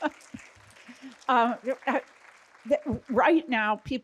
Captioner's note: laughing together; audience applauding